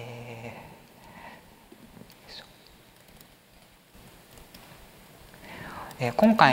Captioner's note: silence